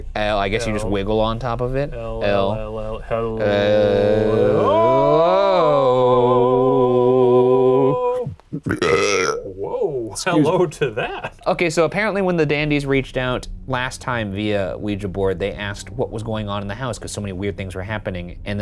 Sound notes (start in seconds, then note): 8.1 belching